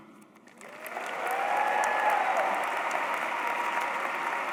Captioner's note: applause